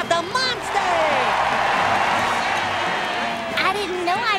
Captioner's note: cheering